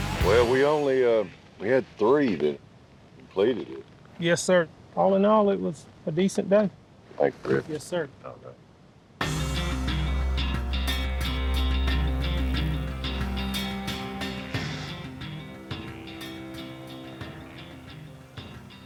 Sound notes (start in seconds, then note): 14.5 sighs